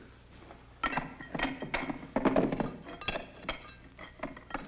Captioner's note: tool thuds; tools clink and scrape